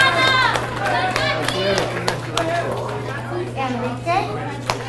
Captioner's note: audience cheers and applauds